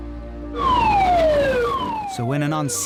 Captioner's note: alarm blaring